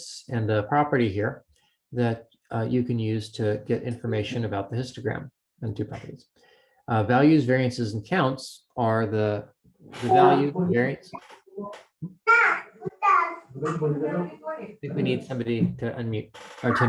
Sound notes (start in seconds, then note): 11.4 family chatter faintly